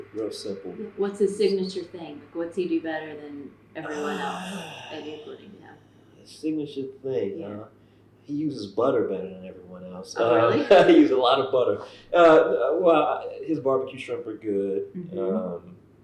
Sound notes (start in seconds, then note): 10.5 laughter